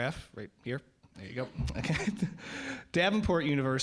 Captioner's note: audience laughing